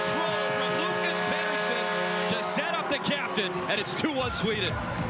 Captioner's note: horn